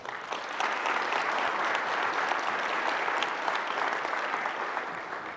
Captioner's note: applause